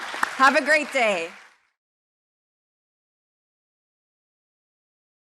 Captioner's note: audience applauding